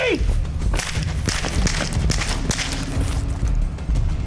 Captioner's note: gun fires; intense music